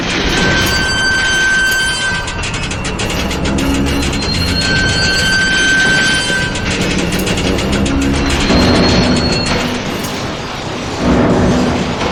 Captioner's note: loud, screeching sound as the 9 ton doors are bent, then torn from the wall